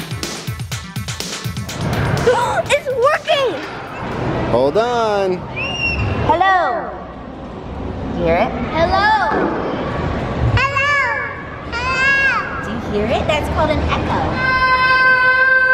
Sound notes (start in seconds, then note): 5.4 screams